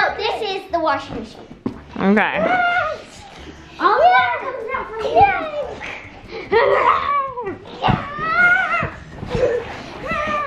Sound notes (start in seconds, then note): 3.6 children making water sound effects